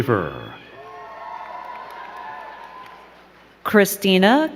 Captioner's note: crowd cheering and clapping